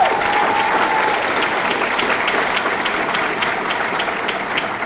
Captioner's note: audience clapping